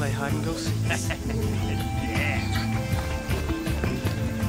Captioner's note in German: lacht